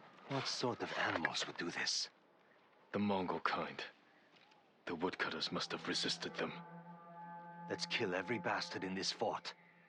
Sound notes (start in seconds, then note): 5.7 alarm